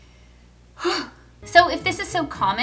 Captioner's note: sighs